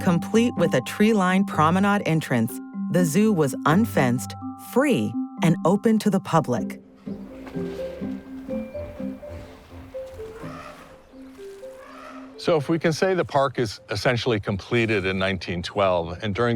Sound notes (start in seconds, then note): 7.0 elephants trumpeting; 7.2 gentle music